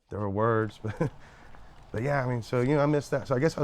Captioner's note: chuckles